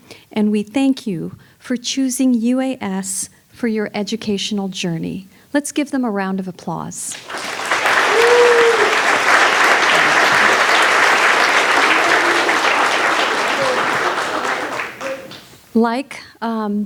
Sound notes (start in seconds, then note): 7.1 audience applauding